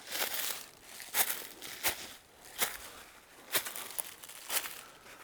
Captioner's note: walking, rustling